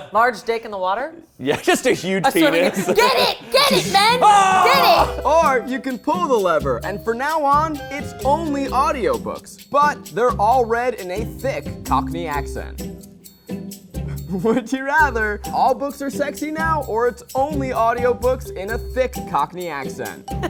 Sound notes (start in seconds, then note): 3.5 yells